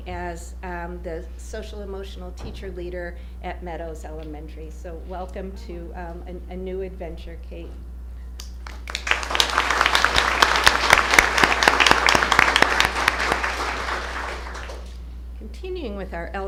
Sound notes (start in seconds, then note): 8.4 applause